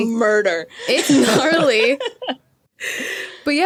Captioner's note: group laughing